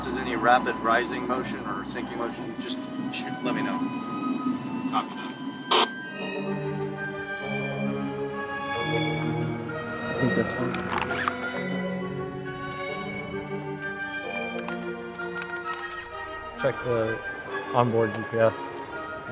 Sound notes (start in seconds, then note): 5.2 speaker On Radio